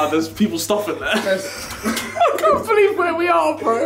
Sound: laughing

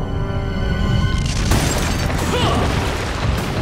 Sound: crashing

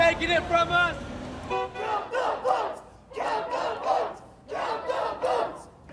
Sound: chanting

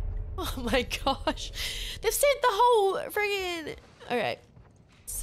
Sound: laugh

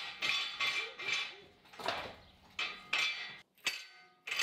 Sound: metal clanking

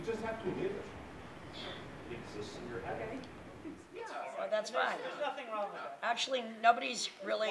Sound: audience mumbling

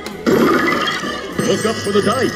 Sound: machine whirring

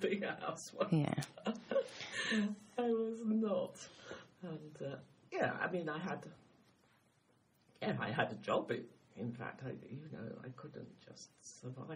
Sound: laughs; laughs

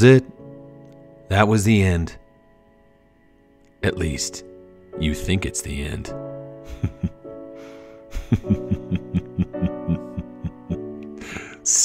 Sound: evil laugh

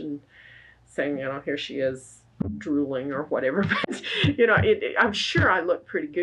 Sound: laughs

